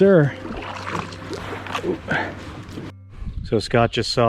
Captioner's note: water sloshing